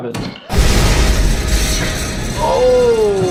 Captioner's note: glass shattering